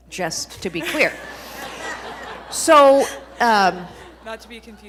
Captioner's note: audience laughing